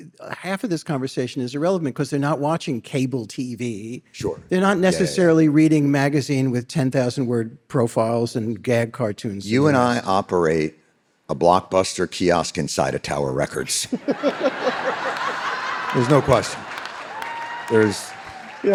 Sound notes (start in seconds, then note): 13.9 David and audience laughing